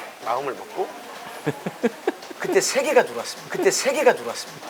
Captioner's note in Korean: 웃음